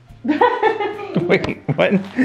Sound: laughing

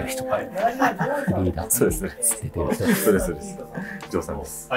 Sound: laughing

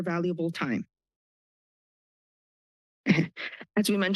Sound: pause

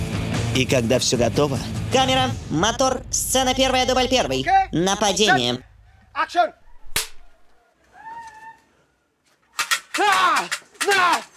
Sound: distorted voice

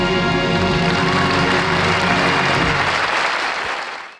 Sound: audience applauding

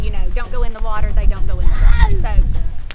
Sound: baby groaning nearby

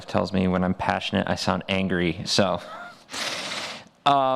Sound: laughs

